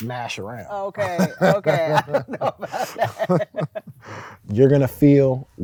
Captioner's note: laughing